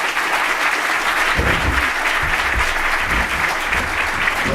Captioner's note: applause